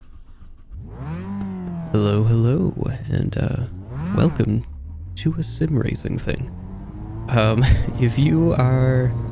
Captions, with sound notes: [Engine Revving] Hello, hello, and welcome... to a sim racing thing! Um, [chuckles] if you are...